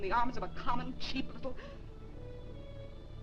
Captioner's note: gasping